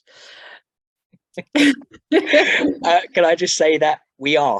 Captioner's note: laugh